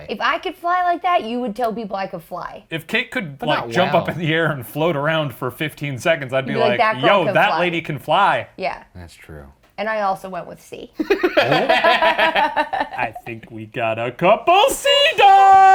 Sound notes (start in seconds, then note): 11.0 laughing